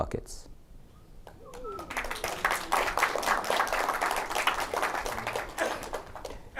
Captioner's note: applause